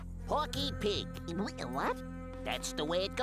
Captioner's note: stutters